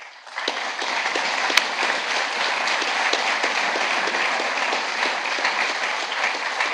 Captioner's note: applause